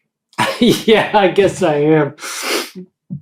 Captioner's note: laughing; sniffs